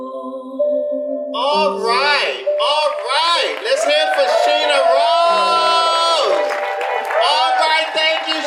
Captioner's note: audience applause